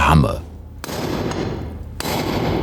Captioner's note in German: Metallische Schläge